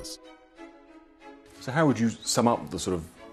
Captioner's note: voiceover